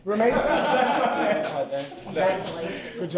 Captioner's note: laughing